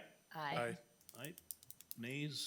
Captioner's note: pen clicking